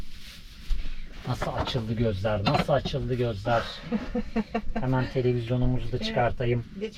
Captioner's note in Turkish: kahkaha